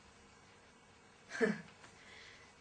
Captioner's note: laugh